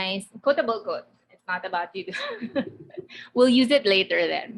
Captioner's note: laughing